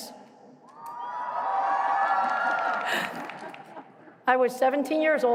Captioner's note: cheering